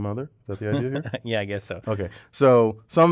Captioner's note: laugh